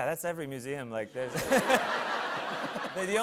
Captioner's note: laughter